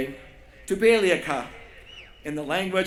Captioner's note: non-english speech